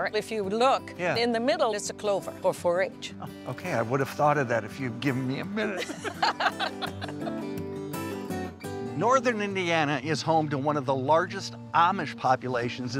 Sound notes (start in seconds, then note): 5.6 both laughing